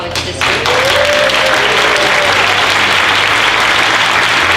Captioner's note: applause